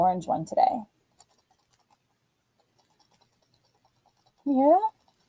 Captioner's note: faint rattling